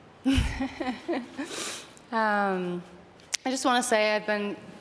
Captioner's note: laughing